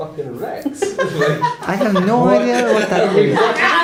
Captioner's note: laughter